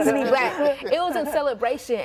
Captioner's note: group laughs